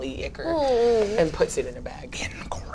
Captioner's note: groans